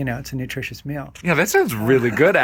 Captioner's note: laughing